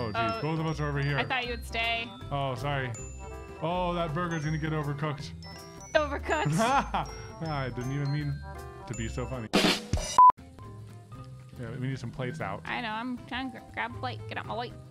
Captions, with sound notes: Oh geez, both of us are over here I thought you would stay Oh, sorry, oh that burgers cgonna get overcooked Overcooked! *laughs* I didn't even mean to be so funny *ba dum tss* We need some plates out I know I'm trying to grab a plate, get out my way